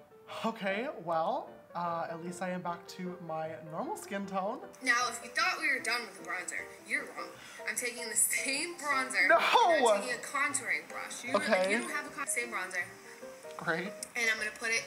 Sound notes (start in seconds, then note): 7.4 soft gasp